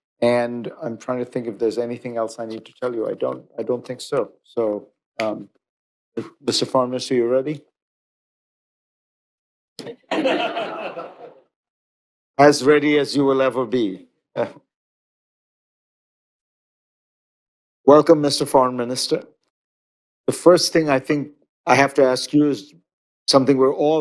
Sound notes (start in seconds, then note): 9.8 laughter